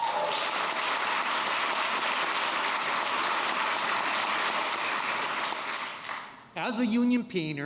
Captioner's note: applause